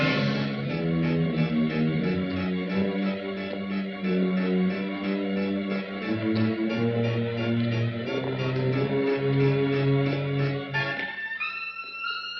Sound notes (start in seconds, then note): 0.3 eerie music continues; 6.2 footsteps